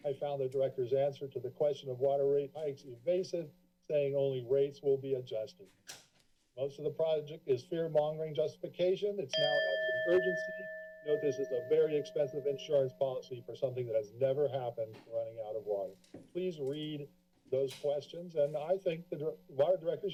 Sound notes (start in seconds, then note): 9.3 bell sounds